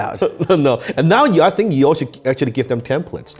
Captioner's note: chuckles